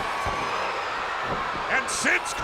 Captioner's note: spectators cheering